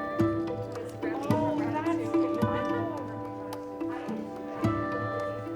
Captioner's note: students chattering